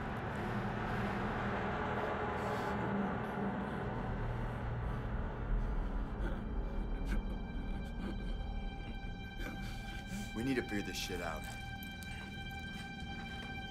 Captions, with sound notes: (suspenseful music) (Gabriel groans) (light dramatic music) - We need to figure this shit out.